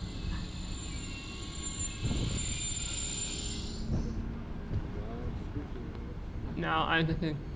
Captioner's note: Caltrain brakes screech and wind blows into the mic